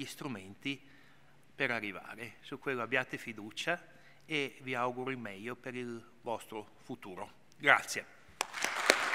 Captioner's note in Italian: Applauso